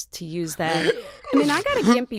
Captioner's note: laughs